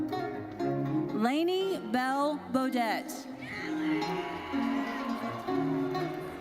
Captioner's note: audience cheers